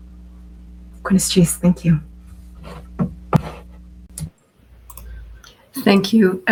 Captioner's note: non-English speech